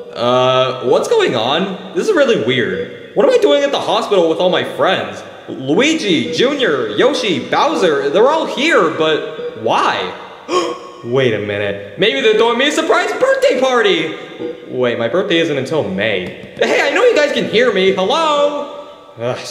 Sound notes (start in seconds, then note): 10.5 Mario gasping